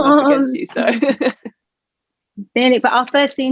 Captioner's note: laughs